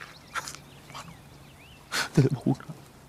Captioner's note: whispering